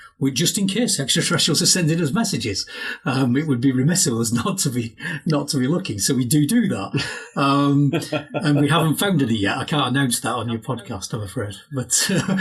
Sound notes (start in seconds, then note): 6.6 laughs; 12.1 speakers talking and laughing over each other